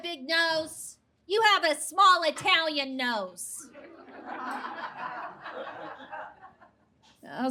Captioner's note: audience laughs